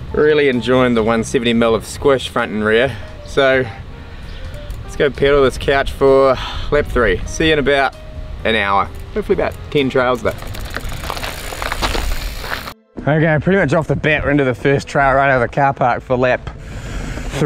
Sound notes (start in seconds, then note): 11.2 bike rattles